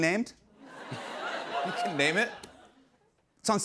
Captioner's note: laughter